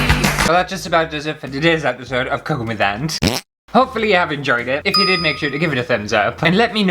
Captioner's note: fart!